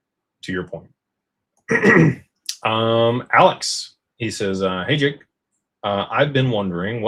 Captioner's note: clears throat